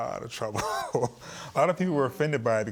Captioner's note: chuckling